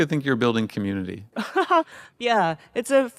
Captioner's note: Atsuko laughing